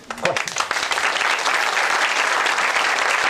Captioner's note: applause